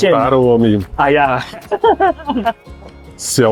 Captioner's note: haha